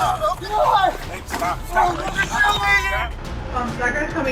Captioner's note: yelling; yelling